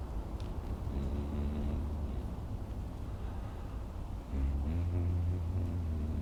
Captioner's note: humming